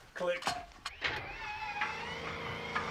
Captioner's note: engine whirring